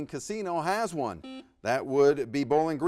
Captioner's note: buzzer buzzes